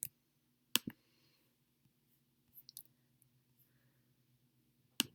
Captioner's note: keyboard typing